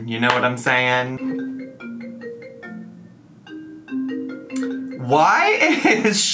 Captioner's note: cellphone rings